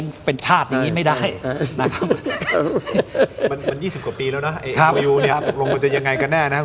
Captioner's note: laughter